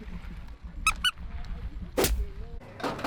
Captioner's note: toy squeaking; fist punching